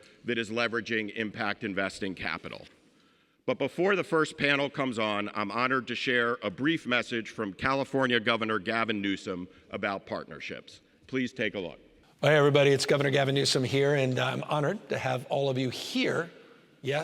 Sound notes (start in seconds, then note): none